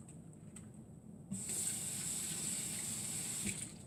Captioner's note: running water